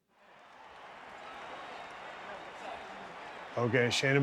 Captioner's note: crowd cheering